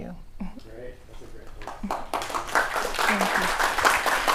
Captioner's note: clapping